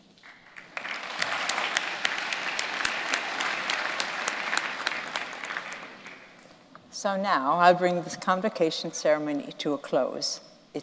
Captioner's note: applause